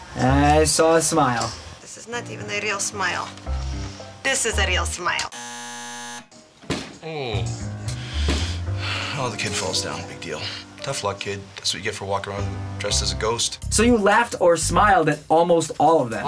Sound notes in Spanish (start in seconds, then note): 5.3 zumbador; 6.6 Whump!; 7.0 Suspiro